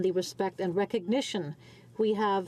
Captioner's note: speaking French